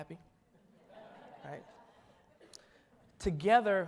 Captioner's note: audience laughs